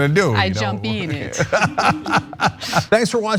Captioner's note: laugh